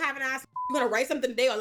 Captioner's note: beep